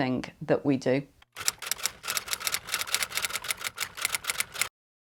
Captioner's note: typewriter clicking